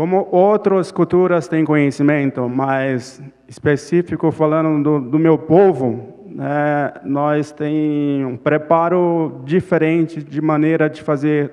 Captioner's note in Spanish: Ponente habla en portugués